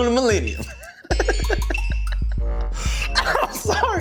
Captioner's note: laughing